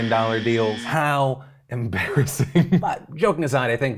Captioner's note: buzzer blaring; chuckles